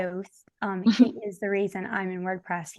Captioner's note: chuckles